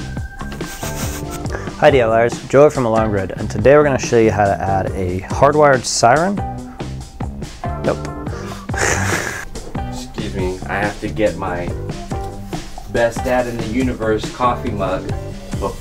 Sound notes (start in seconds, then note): 0.4 sniggers; 8.5 laughs